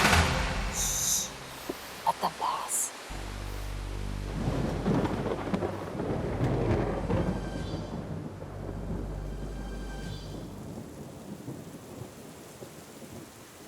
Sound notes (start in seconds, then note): 4.1 thunder crackles; 10.2 rain trickling in distance